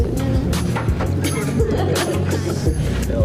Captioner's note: laughter